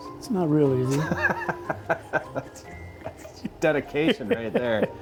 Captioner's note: laughs